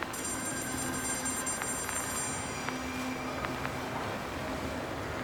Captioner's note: telephone ringing